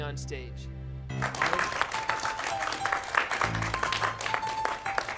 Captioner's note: applauding